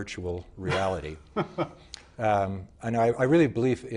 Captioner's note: laughing